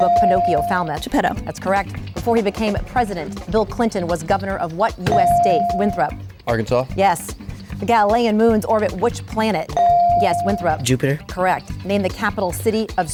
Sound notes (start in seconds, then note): 0.0 ding; 9.8 ding